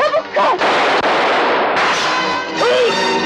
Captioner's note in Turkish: Silah sesleri